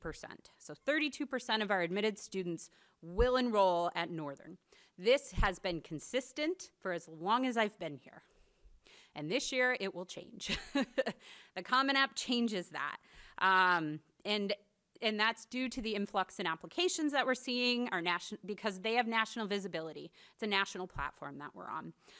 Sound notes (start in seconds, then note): 10.9 laughs